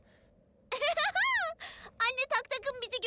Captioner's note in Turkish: Gülme sesi